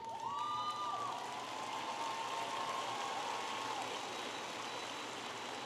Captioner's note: audience applauding and cheering